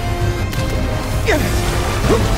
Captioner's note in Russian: Кряхтит